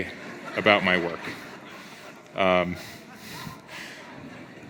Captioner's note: audience laughs